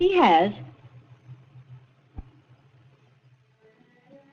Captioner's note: footsteps